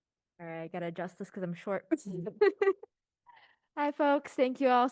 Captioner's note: laughs